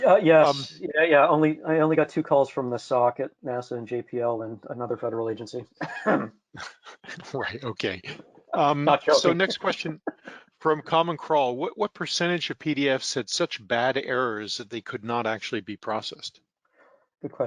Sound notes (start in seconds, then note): 6.6 laughing